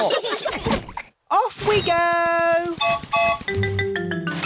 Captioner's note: laughter; whistle blows